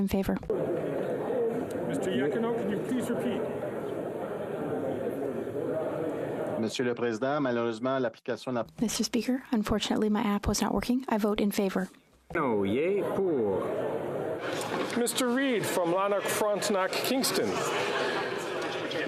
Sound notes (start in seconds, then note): 1.9 speaking French